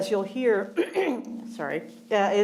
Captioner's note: clearing throat